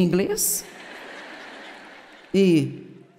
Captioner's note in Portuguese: audiência ri